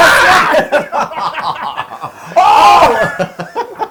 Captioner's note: laugh